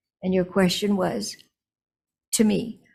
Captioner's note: none